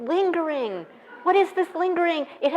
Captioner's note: laughing